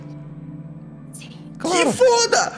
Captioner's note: whispering